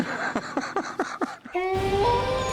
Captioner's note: laughs; wolf howls